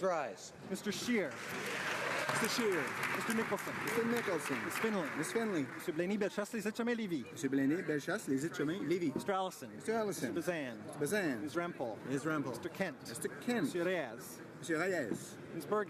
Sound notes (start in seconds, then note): 5.3 applause